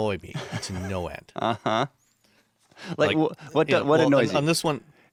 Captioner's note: chuckling